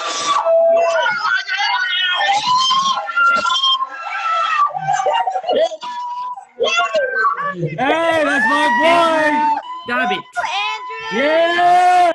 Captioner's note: cheering